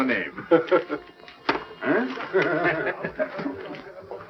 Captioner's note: laughing